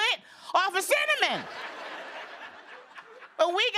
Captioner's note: laughter